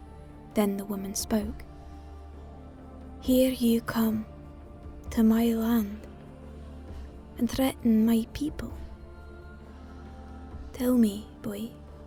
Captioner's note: Scottish